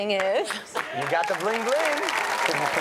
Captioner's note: audience cheers and applauds